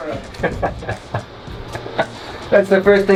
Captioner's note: laughter